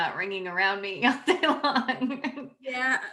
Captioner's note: laughs